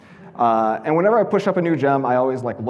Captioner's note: audience laughing